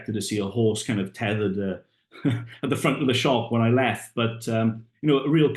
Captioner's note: laughs